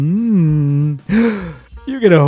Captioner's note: shocked gasp